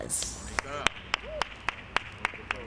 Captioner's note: applause